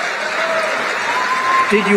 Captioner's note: applause